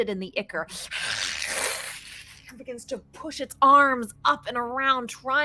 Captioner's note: hisses